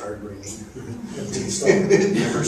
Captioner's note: chuckle